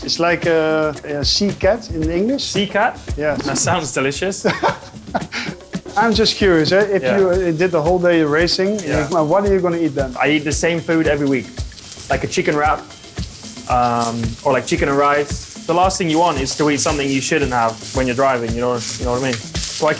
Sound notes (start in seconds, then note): 3.3 laughing